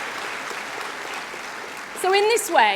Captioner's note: applause